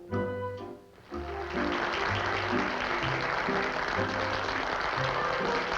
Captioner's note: applause